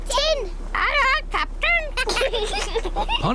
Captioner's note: children giggle